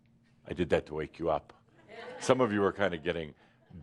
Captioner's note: a few chuckles